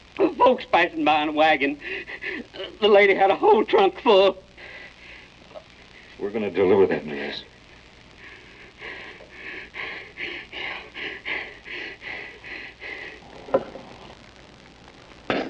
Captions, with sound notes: Some folks passin' by in a wagon. The lady had a whole trunk full. We're gonna deliver that dress. [panting] Yeah.